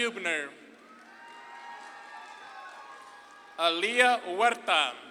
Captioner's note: audience claps and cheers